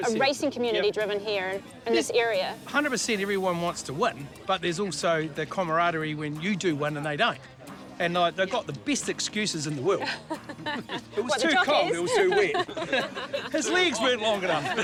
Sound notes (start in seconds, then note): 10.0 laughs